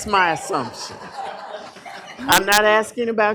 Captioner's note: laughter